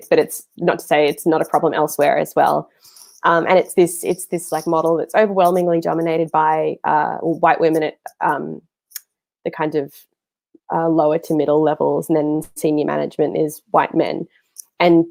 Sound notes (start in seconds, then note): none